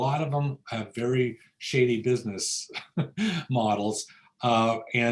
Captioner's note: laughs